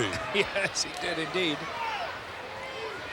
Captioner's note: laugh